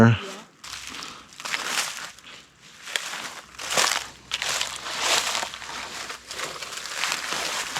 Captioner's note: leaves crunching